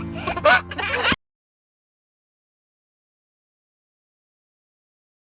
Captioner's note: laughing quickly